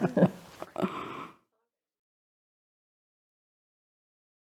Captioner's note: both laugh